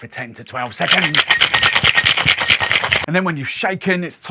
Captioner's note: ice clinking